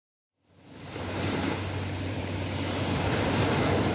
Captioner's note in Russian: шум моря, звук прибоя